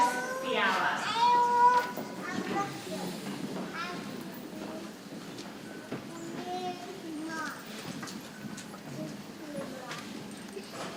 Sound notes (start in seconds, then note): 2.0 people chattering softly